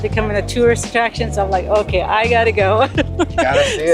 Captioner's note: laughs